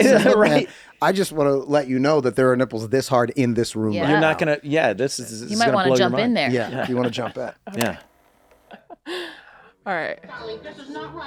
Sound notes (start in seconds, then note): 7.7 graphic clicks; 8.7 laughs